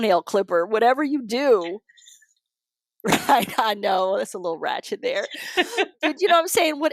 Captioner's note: laughter